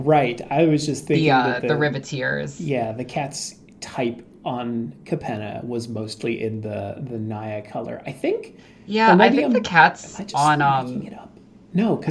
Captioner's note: quietly